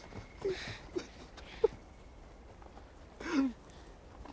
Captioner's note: sobbing